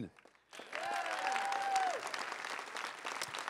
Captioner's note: crowd cheering and applauding